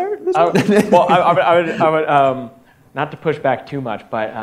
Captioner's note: laughs